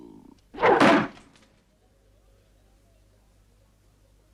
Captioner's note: knife thuds